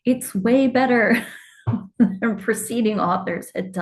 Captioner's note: chuckles